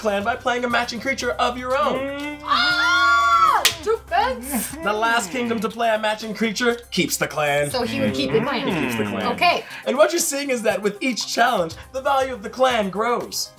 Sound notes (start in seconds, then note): 2.5 shouting